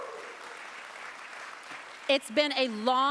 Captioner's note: applause